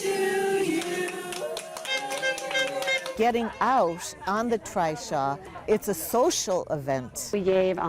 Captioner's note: cheering